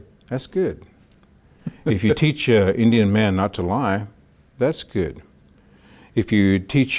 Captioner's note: laughs